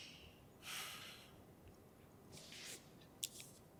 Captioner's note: sighs